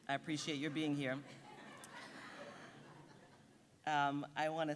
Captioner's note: audience giggling